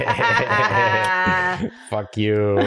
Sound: laughter; laughs

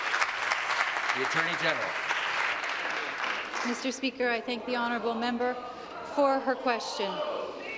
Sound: applause

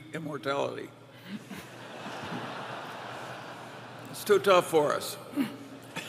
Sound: laughter; laughter

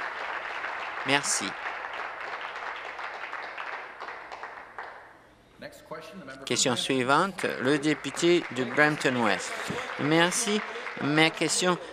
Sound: applause

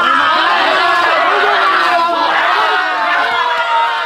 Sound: everyone crying

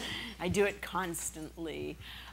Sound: laughing

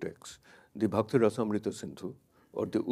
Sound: speaks in a foreign language

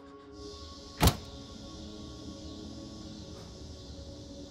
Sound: cicadas

